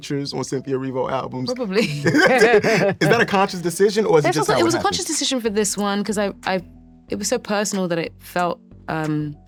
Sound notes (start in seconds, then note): 1.7 laughs